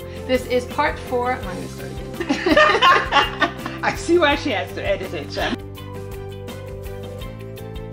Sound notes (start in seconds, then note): 2.2 laughing